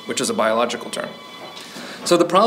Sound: phone ringing

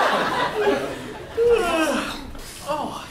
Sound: yawning

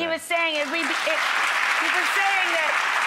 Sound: audience applause

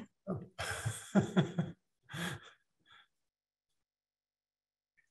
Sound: laughs

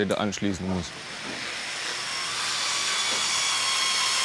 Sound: screeching machine noise

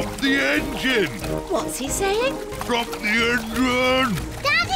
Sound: splutters

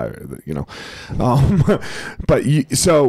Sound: chuckles

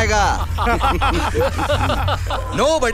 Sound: laughs

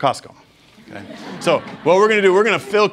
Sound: students laughing

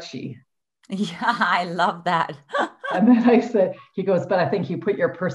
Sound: laughing

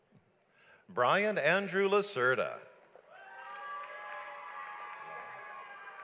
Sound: audience applauds

